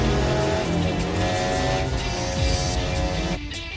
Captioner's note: cars rev away; upbeat rock music